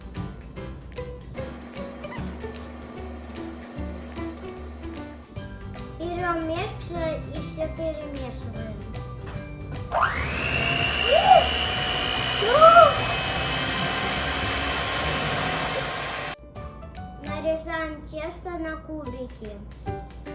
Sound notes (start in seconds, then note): 9.9 mechanism Sound